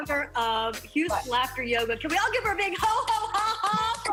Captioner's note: laughter